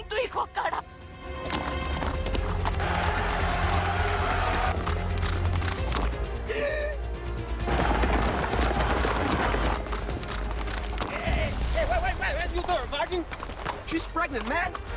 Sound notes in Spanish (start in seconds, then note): 2.8 Algarabía en el hipódromo; 9.0 Algarabía en el hipódromo